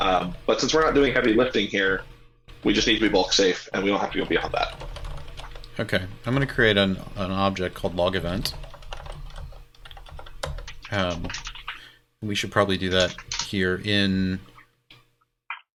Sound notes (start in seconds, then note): 4.2 keyboard keys clanking; 8.4 keyboard keys clanking